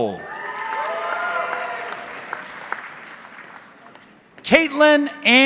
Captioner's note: audience cheering